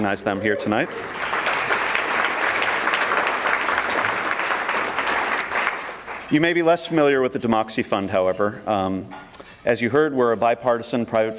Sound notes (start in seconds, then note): 0.7 audience clapping